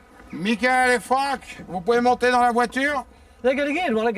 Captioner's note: shouting in foreign language